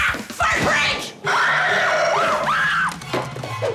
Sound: screaming

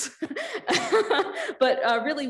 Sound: laughing

